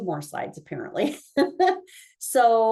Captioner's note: laughing